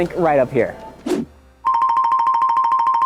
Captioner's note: air whooshing; bell tinkling